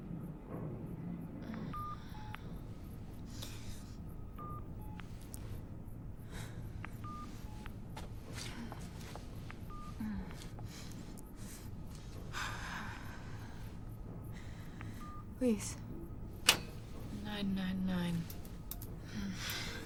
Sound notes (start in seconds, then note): 1.6 groans